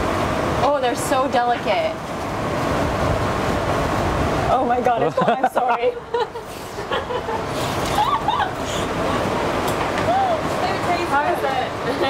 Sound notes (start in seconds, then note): 5.0 all laughs